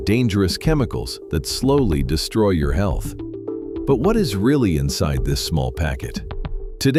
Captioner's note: thoughtful